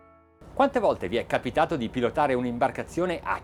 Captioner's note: speaking in foreign language